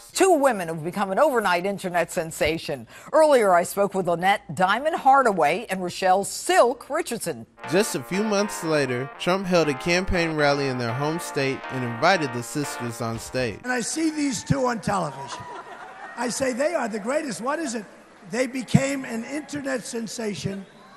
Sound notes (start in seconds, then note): 14.0 audience members cheer; 15.2 Diamond and Silk laugh